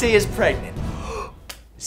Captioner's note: enthusiastic gasp